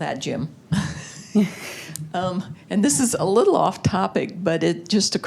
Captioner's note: laughter